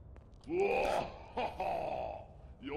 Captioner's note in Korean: 으헣ㅎ허